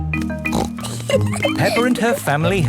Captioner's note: snorts and giggles